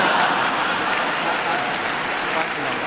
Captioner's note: laughter and applause